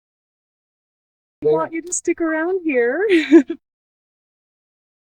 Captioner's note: laughs